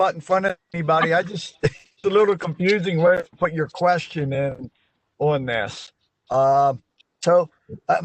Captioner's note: laughter